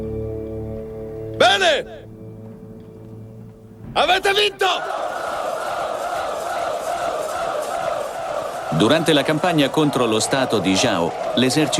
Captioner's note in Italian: Applauso